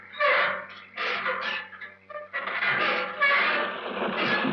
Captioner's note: metal gear door screeching